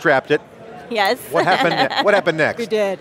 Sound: laughs

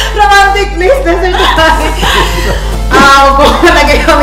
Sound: laughing

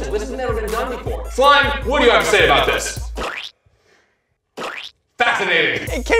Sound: blurps

